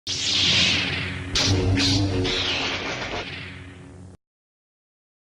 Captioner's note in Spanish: Sonido de láser